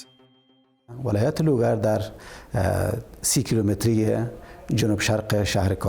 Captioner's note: speaks in foreign language